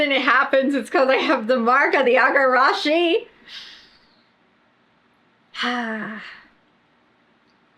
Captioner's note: sighs